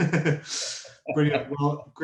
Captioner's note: laughing